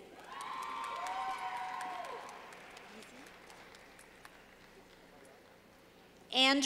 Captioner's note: clapping